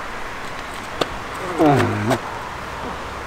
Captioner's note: tired groan